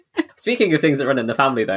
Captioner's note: laughs